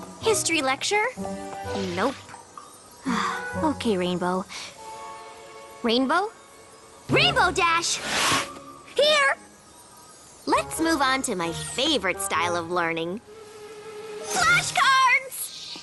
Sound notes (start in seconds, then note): 3.0 sigh; 7.9 whoosh